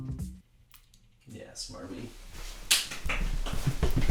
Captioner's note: claps